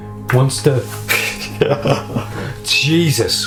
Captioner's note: laughs